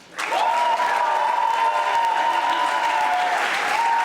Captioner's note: audience applauding